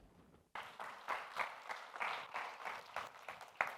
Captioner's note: applause